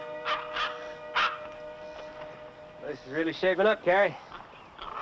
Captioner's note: dog barking